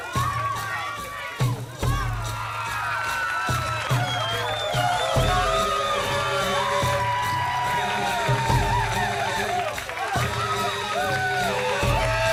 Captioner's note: crowd cheering